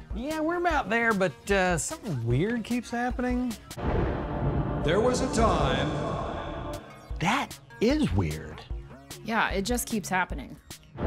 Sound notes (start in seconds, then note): 6.7 thunder and ominous sounds